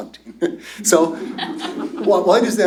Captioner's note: laughter